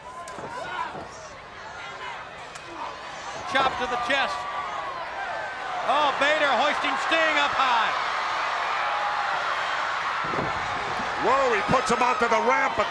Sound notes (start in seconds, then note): 0.1 crowd yelling; 7.8 crowd cheering